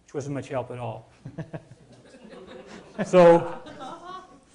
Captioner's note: audience laughing